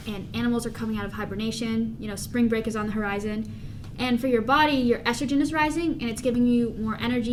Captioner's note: none